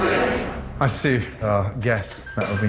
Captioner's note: crowd